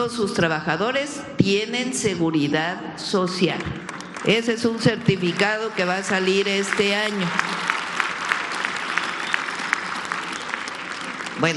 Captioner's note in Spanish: aplausos